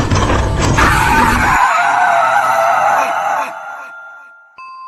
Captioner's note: elevator rattles loudly; liam, asher, and stonewielder scream